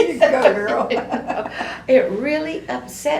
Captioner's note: laughter